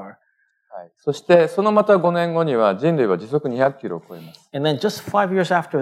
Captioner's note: speaking japanese